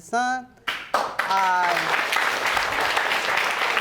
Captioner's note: audience applauding